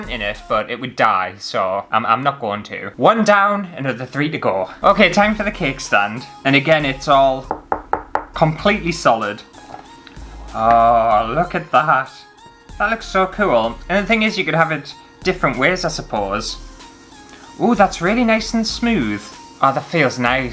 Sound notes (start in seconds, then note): 7.4 knock, knock, knock